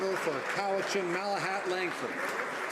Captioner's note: some Applause